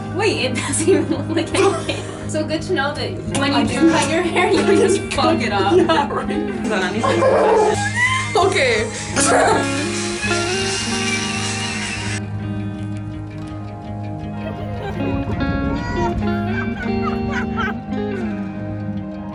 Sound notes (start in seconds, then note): 6.8 cackling; 7.0 laughter; 14.4 laughter